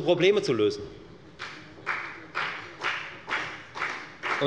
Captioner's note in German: Beifall bei der FDP